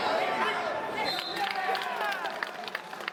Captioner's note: referee's whistle